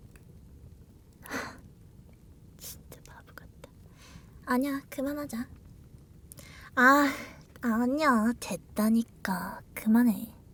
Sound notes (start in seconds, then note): 1.2 sigh